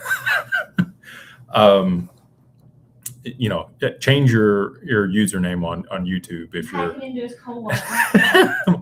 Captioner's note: laughter